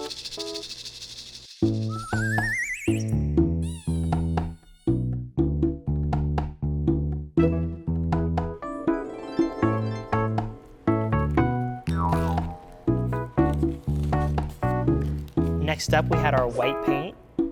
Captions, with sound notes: (maracas rattle) (silly high-pitched whistle) (magical harp strum) Next up, we had our white paint.